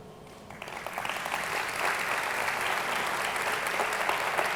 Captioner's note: audience clapping